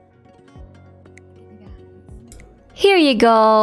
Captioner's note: me whispering